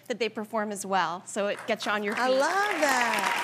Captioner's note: audience applauding